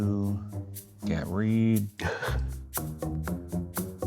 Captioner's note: laughs